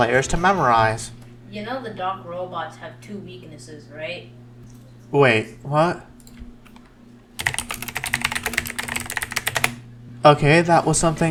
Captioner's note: insert typing noises